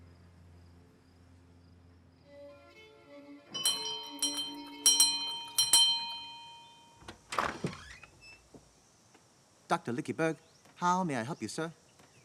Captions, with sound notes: (lively violin music) (bell ringing) - Doctor Lickybug, how may I help you, sir?